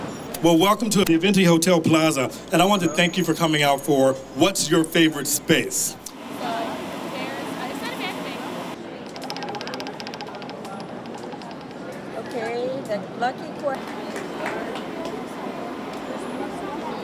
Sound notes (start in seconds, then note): 0.0 traffic; 9.1 spinning wheel; 12.7 crowd